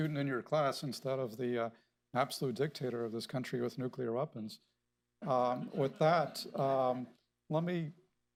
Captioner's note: laughter